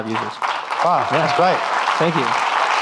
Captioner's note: audience clapping